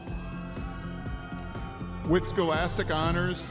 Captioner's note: audience members cheering